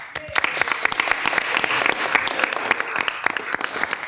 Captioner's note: people applauding